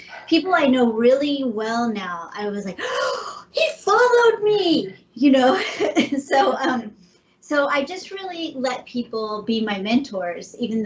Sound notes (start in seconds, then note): 2.8 gasping; 5.5 chuckling